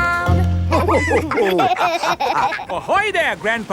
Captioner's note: all laughing